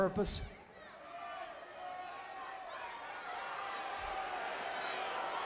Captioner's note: crowd vocalizing